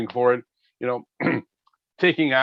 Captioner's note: clearing throat